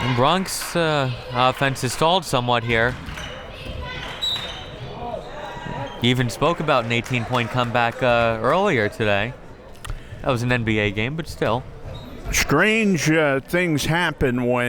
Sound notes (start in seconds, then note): 4.4 whistle tweeting